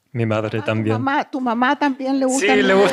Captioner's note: speaking spanish